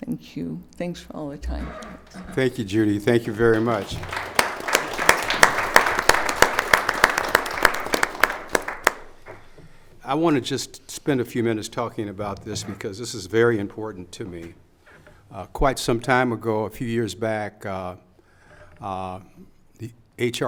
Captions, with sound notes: Thank you. Thanks for all the time. Thank you, Judy. Thank you very much. (audience applause) I wanna just spend a few minutes talking about this, because this is very important to me. Quite some time ago, a few years back,